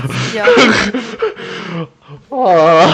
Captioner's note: laugh